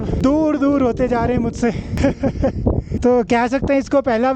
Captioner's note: laughs